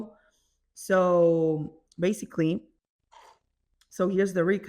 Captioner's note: mate sound